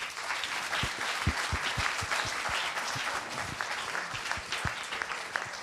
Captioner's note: applause